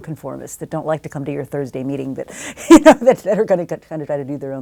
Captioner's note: laugh